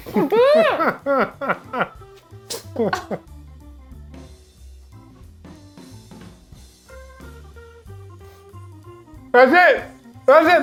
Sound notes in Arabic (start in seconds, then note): 0.0 يضحك إيفان; 2.3 موسيقى مبهجة